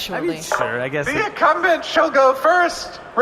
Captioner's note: through megaphone